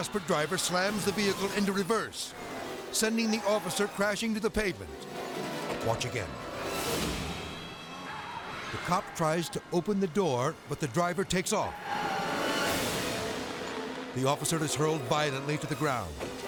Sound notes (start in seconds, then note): 6.6 car wheels squeal; 11.7 intense music